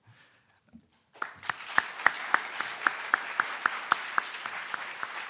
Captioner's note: audience applauding